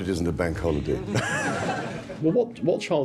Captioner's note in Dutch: gelach